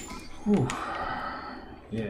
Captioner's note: sighing